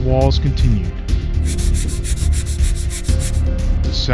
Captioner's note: scratch scratch scratch scratch